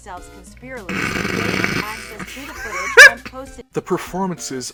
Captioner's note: snorting at such a stupid fucking line